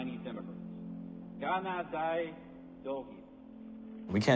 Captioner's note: speaking in Chinese